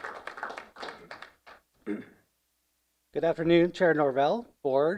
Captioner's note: applause